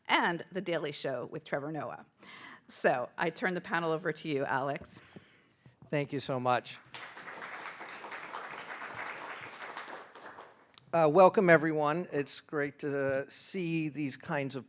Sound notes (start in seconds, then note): 6.8 audience applauding